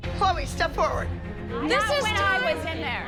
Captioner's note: arguing